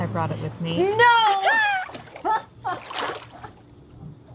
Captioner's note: laughing